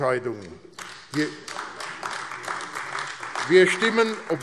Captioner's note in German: Beifall AfD